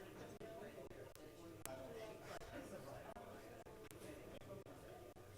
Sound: group chattering

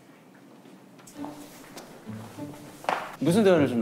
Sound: cheerful footsteps

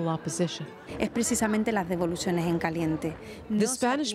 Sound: Spanish

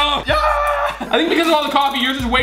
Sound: laughing

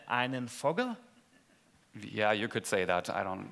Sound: speaking German

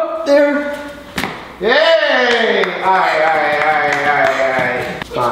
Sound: claps

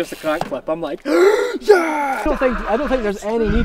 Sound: cheering

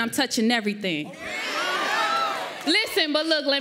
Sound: audience cheers

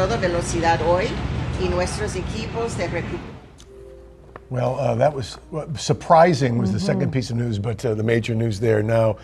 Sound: speaking spanish

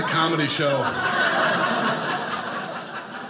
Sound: audience laughing

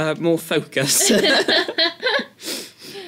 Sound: laugh

